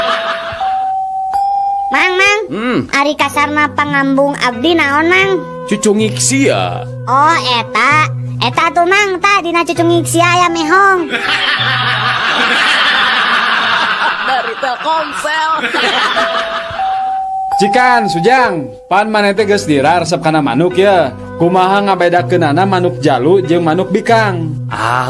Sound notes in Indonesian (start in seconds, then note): 0.0 tertawa; 11.0 tertawa